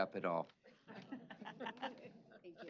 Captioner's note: chuckling